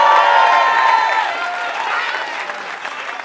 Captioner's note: applause